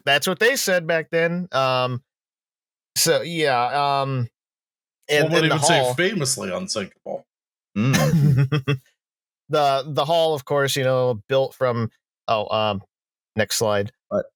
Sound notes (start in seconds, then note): 7.8 chuckles